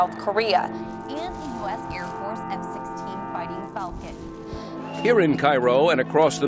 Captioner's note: background News